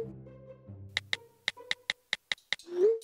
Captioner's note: keyboard typing again